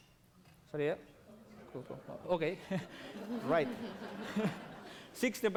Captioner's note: non-english speech